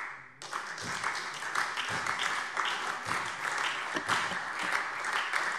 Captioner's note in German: Beifall SPD